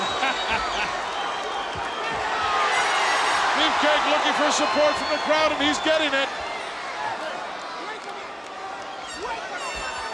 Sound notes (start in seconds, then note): 0.1 Hayes chuckles; 2.5 audience cheers